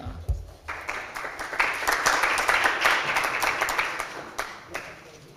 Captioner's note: applause